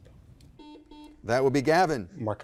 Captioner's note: buzzer blaring